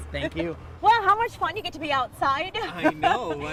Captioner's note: laughs